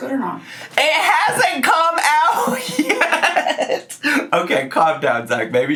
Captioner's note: laughs